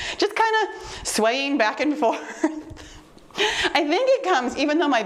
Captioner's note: chuckles